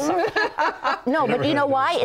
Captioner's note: laughter